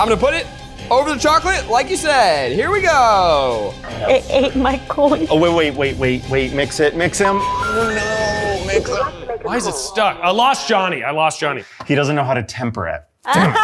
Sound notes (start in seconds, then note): 7.2 phone beeps